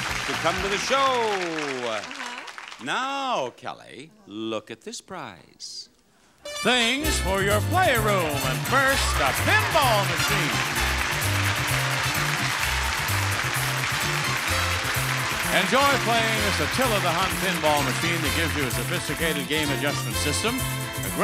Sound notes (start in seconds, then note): 6.1 upbeat music; 10.2 audience cheers and applauds